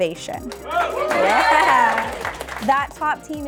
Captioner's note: audience applauding